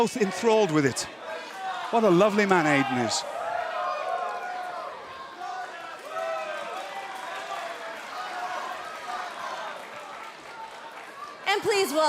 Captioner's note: crowd cheering